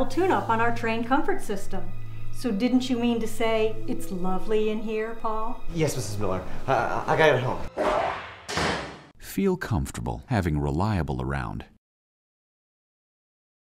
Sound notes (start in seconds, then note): 7.7 door Slams Closed; 7.8 Whish